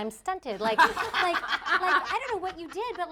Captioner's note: laughing